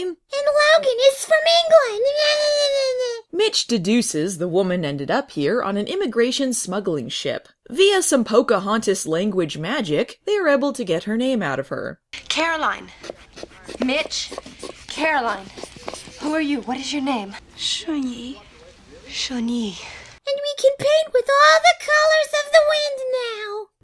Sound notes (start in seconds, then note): 12.6 stethoscope noises